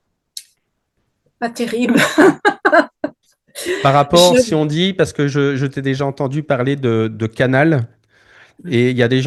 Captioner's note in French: rires